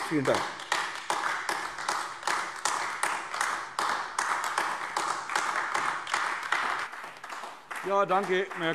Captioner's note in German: Beifall AfD